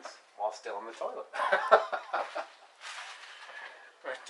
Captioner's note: laughter